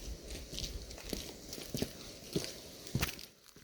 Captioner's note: crunching footsteps